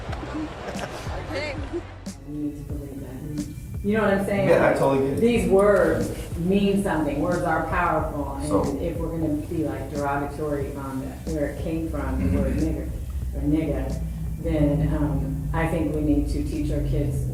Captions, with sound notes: (man chuckles) - Hey. (mellow beats) - You know what I'm saying? - Yeah, I totally do. - These words mean something. Words are powerful. - So-- - And if we're gonna be, like, derogatory on where it came from, the word nigger, or nigga, then I think we need to teach our kids